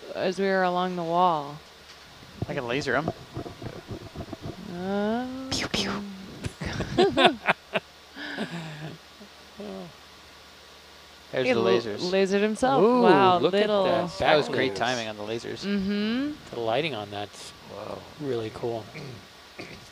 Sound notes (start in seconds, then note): 6.4 laughing